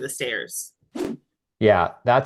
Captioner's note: graphic whooshing